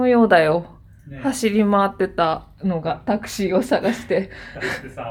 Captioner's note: laughs